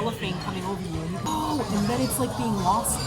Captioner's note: quietly yelling